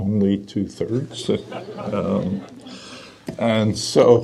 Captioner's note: audience laughter